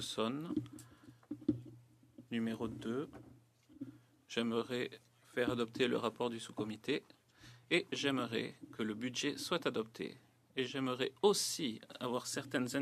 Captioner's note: speaking French